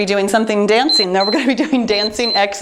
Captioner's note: timer beeps